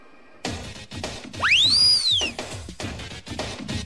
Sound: party whistle

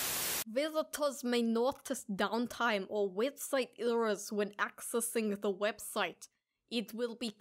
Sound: static; stupid voice

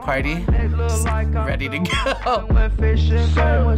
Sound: laughs

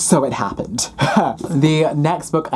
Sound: laughs

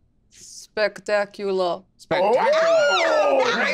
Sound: group exclaiming

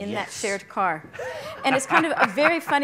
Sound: laughing loudly

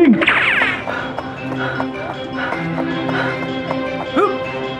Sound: gasping

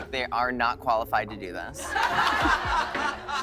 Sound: laughter

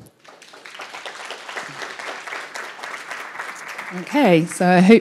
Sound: audience clapping

